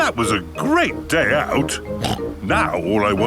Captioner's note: snorts